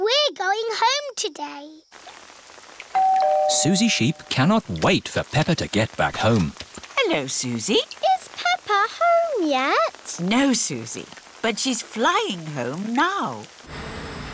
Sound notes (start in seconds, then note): 2.9 doorbell rings